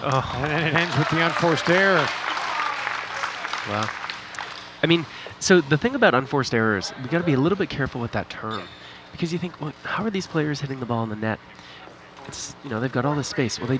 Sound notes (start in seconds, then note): 0.2 disappointed groans; 3.1 audience applauding